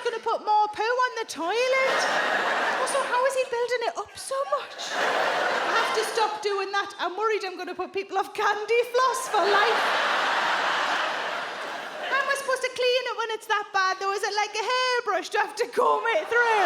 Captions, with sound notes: It's gonna put more poo on the toilet. Also, how is he building it up so much? I have to stop doing that. I'm worried I'm gonna put people off candy floss for life. [audience laughs] How am I supposed to clean it when it's that bad? Was it like a hairbrush? Do I have to comb it through?